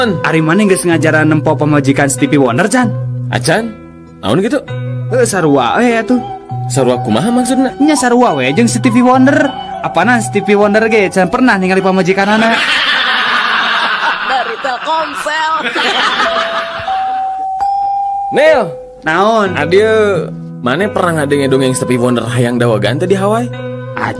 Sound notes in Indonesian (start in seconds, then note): 16.8 tertawa